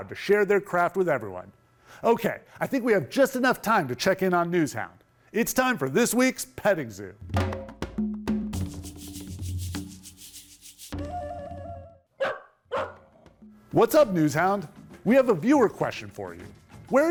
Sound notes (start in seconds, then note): 7.3 upbeat music; 7.6 NewsHound barking